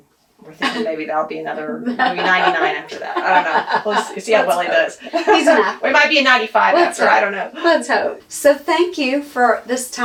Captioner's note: laughs